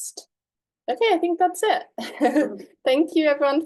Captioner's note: laughs